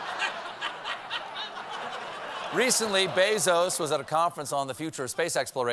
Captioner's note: laughter